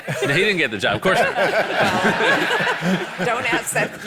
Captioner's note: audience laughing